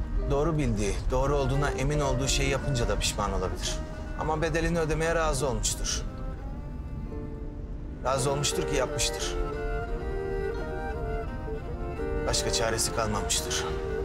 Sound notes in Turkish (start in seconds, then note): none